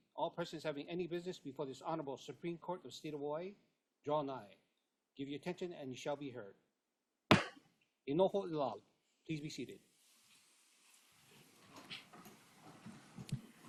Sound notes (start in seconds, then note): 7.3 gavel bangs once